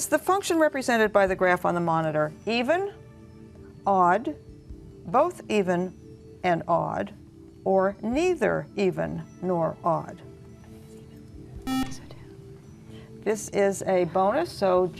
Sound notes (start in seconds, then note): 11.6 buzzer